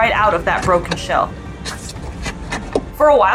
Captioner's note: background music; sound of walrus sniffing for food